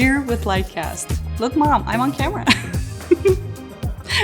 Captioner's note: laughs